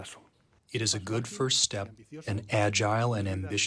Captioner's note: through translator